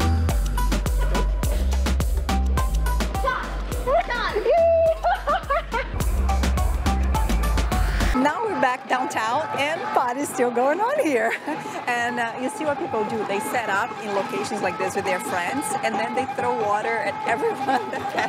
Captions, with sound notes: Oh! [laughs] Pay attention [laughs] Now we're back downtown and the party is still going on here. And do you see what people do? They set up in locations like this with their friends And then they throw water at everyone that passes by.